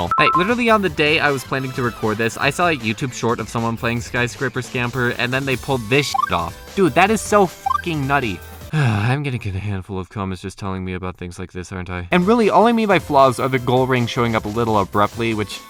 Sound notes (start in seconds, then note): 8.7 sigh